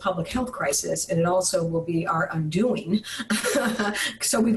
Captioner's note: laughs